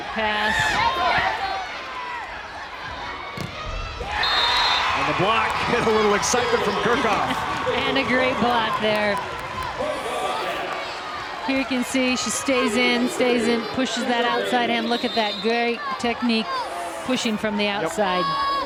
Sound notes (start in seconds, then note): 3.6 crowd and players cheering; 4.2 whistle blows